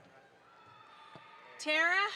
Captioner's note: audience applauds